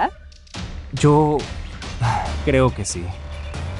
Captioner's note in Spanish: suspira